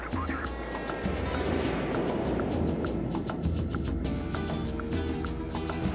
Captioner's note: jet engine running; afro-Caribbean jazz music